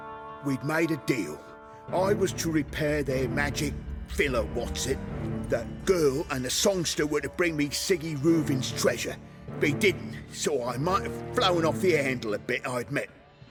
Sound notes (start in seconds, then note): none